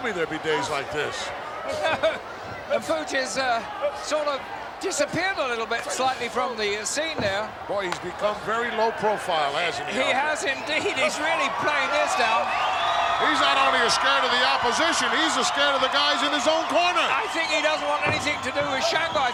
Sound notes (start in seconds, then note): 1.6 laughs